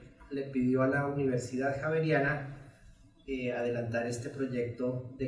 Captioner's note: speaks in Spanish